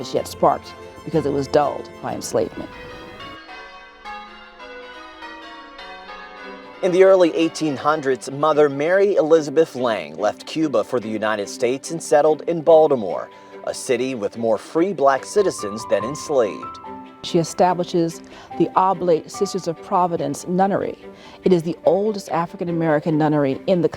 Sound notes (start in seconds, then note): 5.6 bells ringing